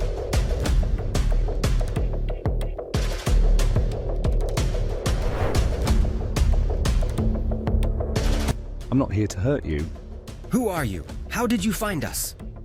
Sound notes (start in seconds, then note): 3.5 suspenseful music continues; 5.0 transition whooshing; 6.5 suspenseful music continues